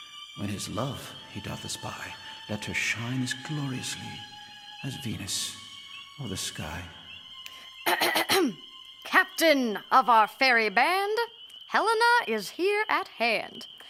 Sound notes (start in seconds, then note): 7.9 Puck clears voice